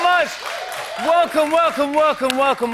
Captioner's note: cheers and applause